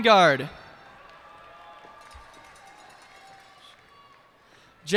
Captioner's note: cheers and applause